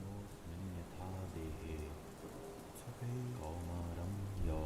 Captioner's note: ambient Rain